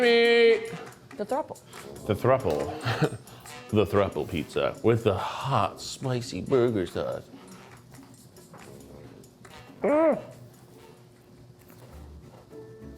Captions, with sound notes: - The Three Meat. - Three Meat. - The throuple. - The throuple. (chuckles) The throuple pizza with the hot, spicy burger sauce. (bright music) Ah!